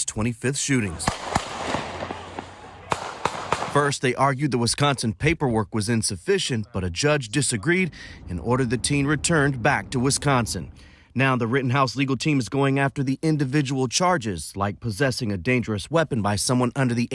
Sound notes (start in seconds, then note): 0.9 gunfire